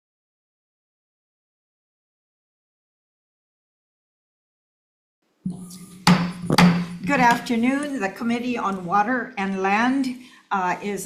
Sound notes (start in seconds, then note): 5.5 banging gavel